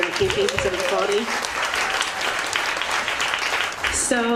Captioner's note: audience clapping